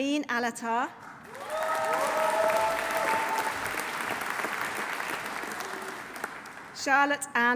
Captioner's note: audience applauding; audience cheering